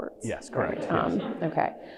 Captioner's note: audience laughs